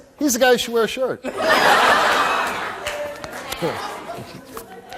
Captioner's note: audience laughs